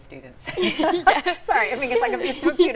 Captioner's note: all laughing